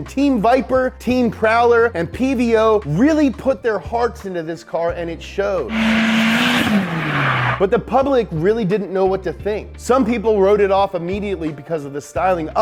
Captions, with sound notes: Team Viper, Team Prowler, and PVO really put their hearts into this car and it showed. (car zooming) But the public really didn't know what to think. Some people wrote it off immediately because of the styling,